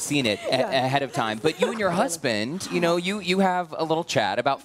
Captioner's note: laughter